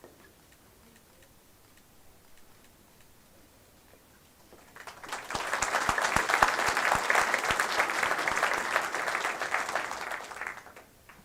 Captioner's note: applause